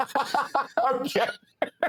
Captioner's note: laughing